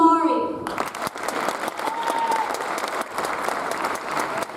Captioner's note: audience applauds